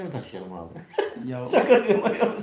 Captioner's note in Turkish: kahkaha